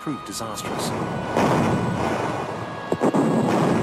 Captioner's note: cannons firing; bombs exploding